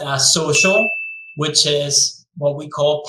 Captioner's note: bell chime